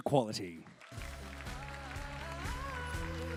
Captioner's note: applause